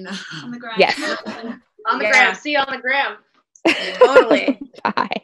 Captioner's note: laughter; laughs